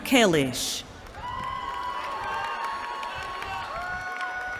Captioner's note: cheering